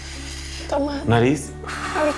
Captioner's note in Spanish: Inhala